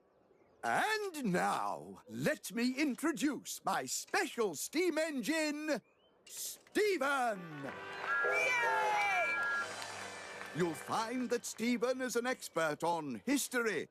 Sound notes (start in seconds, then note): 6.9 crowd Cheers; 7.4 engines Toot